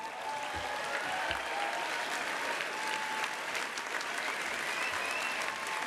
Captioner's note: applause